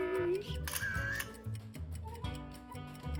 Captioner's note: camera clicks; upbeat music